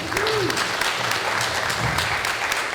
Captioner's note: applause